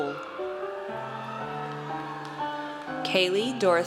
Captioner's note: audience cheers